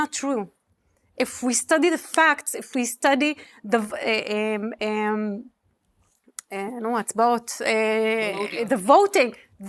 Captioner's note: speaking hebrew